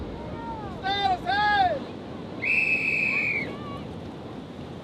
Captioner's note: blows whistle